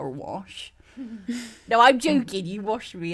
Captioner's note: laughs